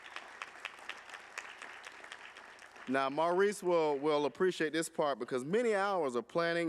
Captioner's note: applause